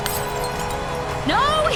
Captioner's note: glass smash